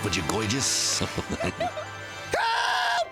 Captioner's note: giggling